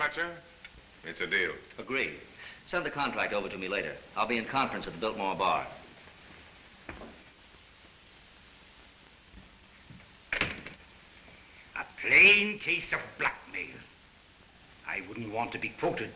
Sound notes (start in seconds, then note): 10.3 door closes